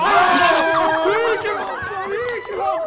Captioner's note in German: Jubel